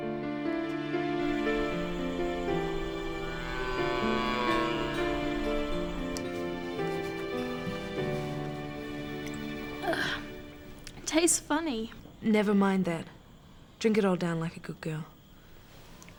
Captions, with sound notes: (soft music) (groans) - Tastes funny. - Nevermind that. Drink it all down like a good girl.